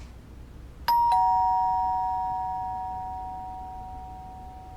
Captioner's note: doorbell rings